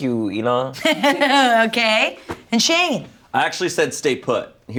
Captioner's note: laughs